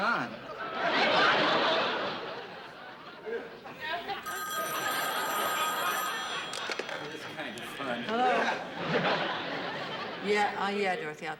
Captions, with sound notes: [ Laughter ] [ Phone rings ] It is kind of fun. Hello? Yeah, Dorothy, I'll tell her.